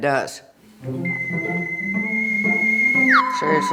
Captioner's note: eerie sci-fi ringtone